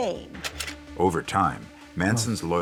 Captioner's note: projector clicks